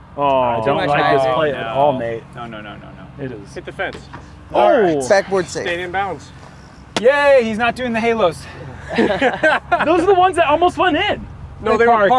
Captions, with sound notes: -Oh, no. -Too much height. -I don't like this play at all mate. -No, no, no, no, no. -It is-- -Hit the fence. -Backboard safe. -Stayed inbounds. -Yay, he's not doing the halos. [laughter] -Those are the ones that almost went in. -No, they were parked.